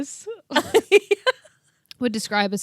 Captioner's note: laughing